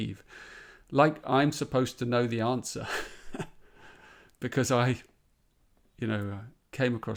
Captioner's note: chuckles